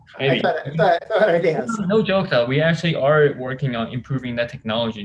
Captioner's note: laughs